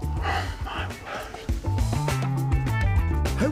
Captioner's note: sighs